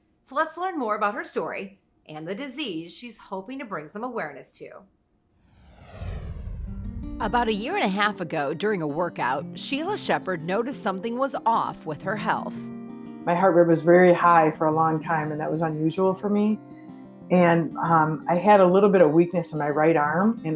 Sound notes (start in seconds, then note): 5.4 logo whooshing; 5.7 soft music